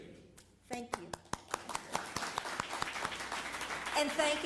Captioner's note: applause